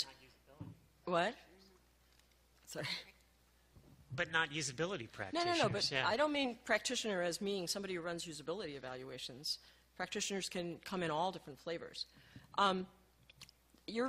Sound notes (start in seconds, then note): 4.4 voiceover